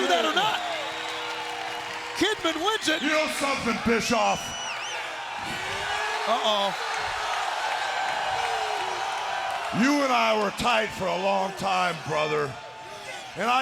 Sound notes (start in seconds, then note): 5.5 crowd cheering